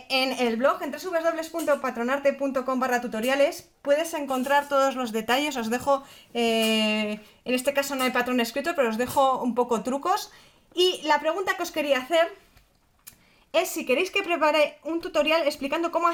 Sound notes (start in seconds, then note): 5.5 in Spanish